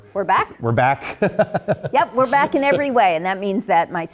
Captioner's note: laugh